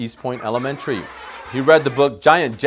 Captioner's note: kids laughing